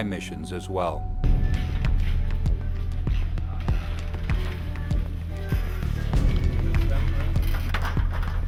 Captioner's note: background chatter and music